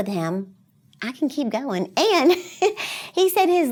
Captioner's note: chuckles